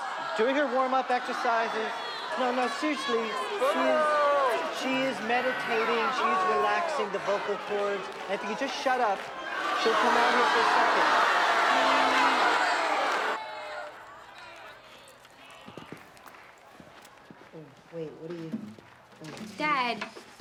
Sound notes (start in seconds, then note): 0.0 crowding booing; 3.4 booing; 9.2 booing loudly; 11.4 loud booing